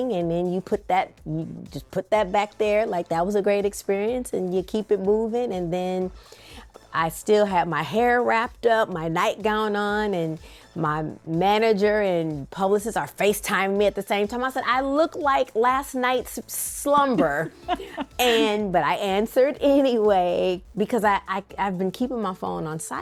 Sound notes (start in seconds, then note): 16.9 laughing